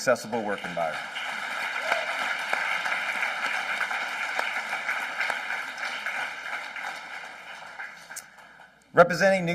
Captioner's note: applause